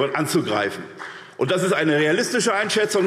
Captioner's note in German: Beifall SPD, vereinzelt CDU und Freie Demokraten